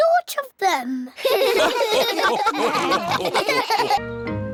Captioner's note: all laugh